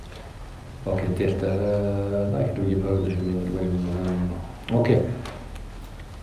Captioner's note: tibetan